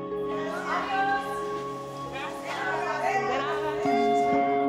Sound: speaking foreign language

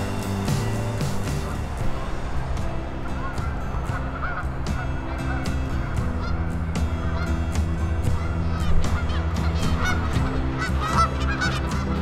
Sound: geese honking

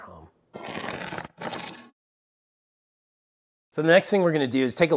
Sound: cardboard ripping

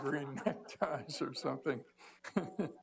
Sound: laughter

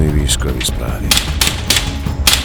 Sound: sound of gunfire

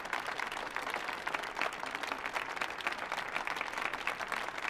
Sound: audience applauds

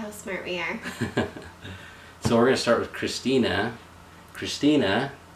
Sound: laughs

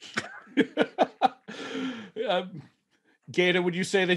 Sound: man laughing

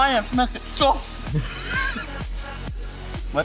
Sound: laughing

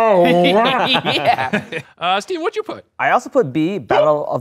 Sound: laughs

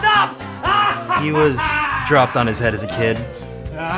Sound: laughs maniacally

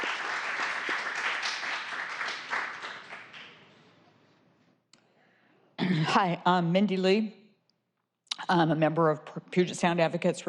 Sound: applause

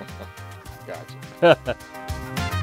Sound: chuckles; funky music

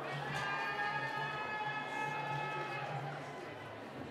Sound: cheering

